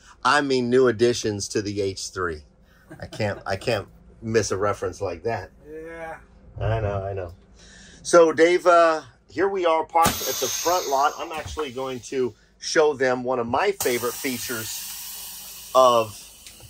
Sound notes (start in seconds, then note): 2.8 laughs